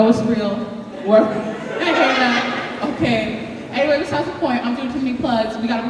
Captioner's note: audience laughing